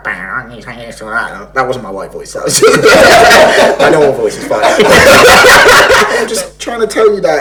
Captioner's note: laughs